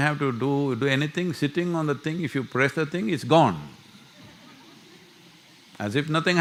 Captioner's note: few laugh